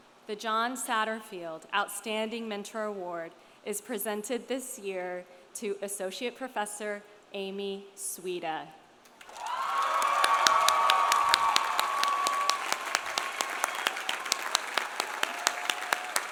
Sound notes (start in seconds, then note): 9.2 audience applauding; 9.2 audience cheering